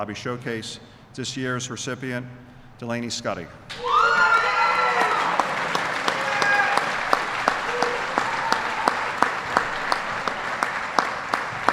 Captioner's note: applause